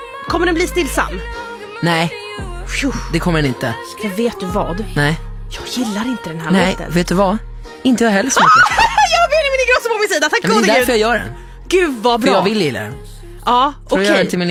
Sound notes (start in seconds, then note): 8.4 screaming